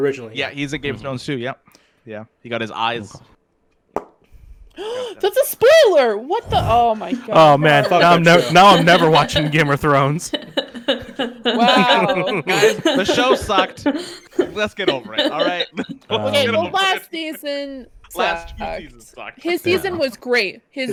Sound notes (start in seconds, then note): 4.6 gasps; 10.4 laughter